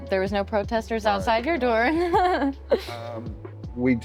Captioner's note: laughter